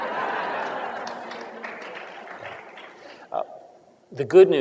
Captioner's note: laughter